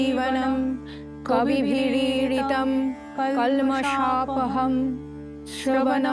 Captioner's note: chanting; chanting